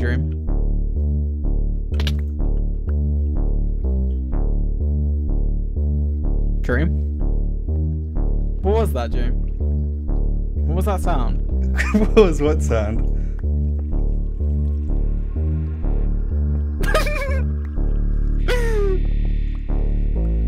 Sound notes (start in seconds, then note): 16.8 giggles